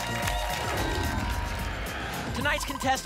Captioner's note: applause and cheering; whoosh